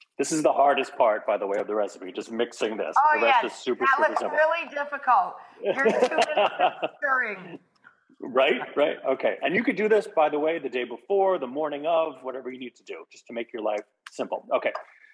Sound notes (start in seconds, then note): 5.6 laughing